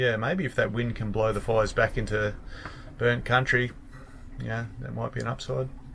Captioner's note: none